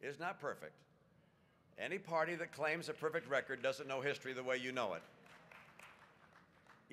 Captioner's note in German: Applaus